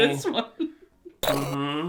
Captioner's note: chuckling